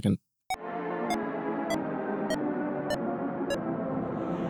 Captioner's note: beeping